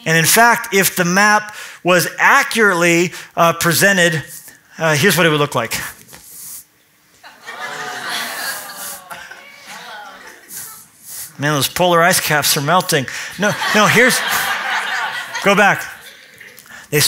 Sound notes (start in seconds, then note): 7.3 oohing and aahing